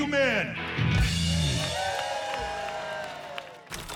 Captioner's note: cheers and applause